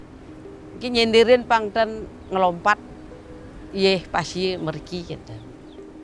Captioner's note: speaks in a foreign language